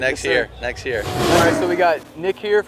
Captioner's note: car revs